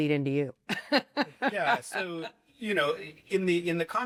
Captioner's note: laughter